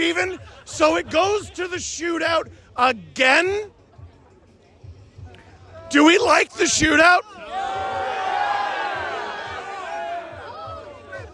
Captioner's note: crowd: NOOO, some applause